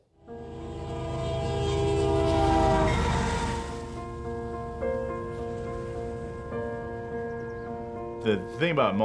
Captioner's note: train horn blowing